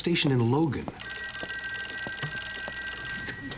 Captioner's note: telephone rings